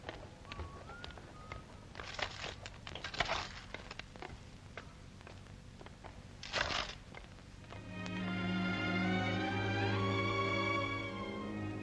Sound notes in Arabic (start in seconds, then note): 0.4 الرجل يصفر بصوت خافت; 1.9 صوت الجرافة; 7.7 موسيقى ناعمة